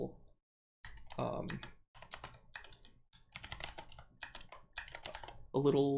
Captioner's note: typing